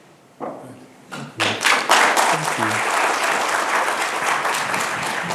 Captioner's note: attendees applauding